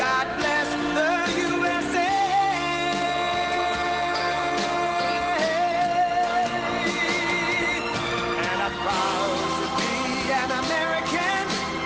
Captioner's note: cheering and applause